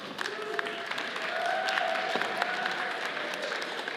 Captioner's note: audience applauds